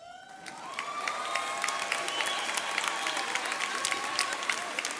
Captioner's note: audience cheering